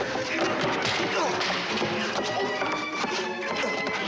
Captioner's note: grunting